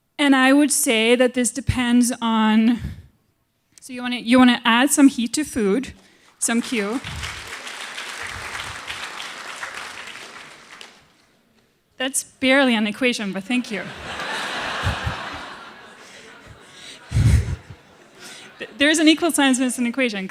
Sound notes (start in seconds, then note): 6.2 applause; 13.5 laughter